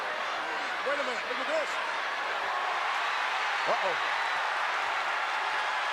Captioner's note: applause